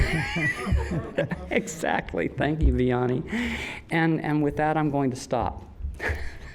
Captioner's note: laughs